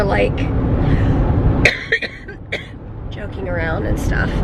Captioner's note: coughing